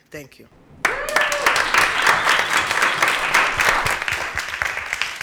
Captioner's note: applause